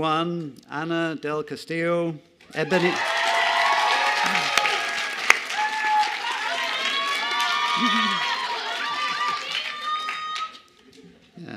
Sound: cheers and applause

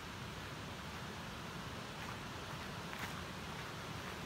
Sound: rushing water roars

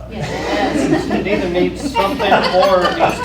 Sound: laughter

